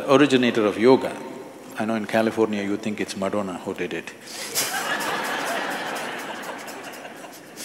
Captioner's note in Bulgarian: смее се с публиката